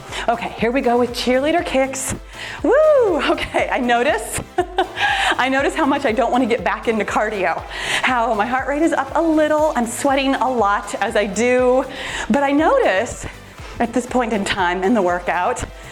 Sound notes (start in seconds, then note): 4.7 laughs